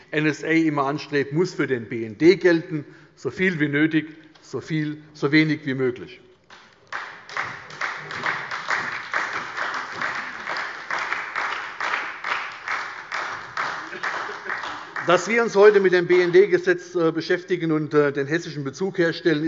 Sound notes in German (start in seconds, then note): 6.5 Beifall bei der SPD